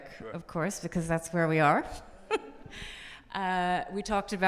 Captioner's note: laughs